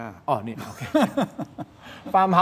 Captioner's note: laughs